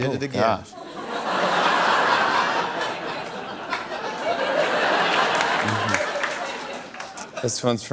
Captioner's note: laughter